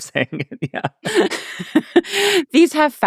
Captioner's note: laughing